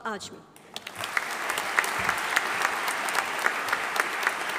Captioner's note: audience applauding